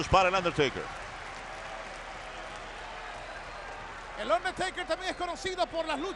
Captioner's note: applause